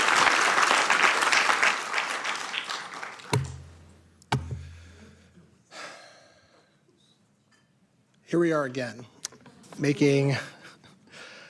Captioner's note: applause